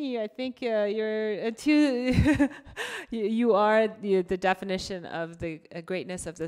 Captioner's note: laughs